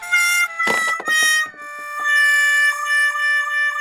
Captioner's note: sound of burned frybread dropping